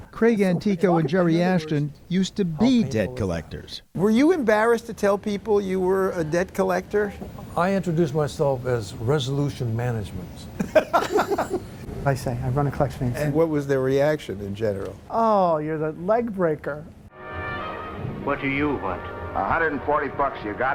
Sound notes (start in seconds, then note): 10.5 laughter